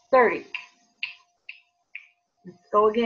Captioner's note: fingers snapping